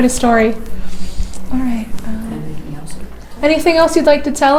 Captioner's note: whispers anything else?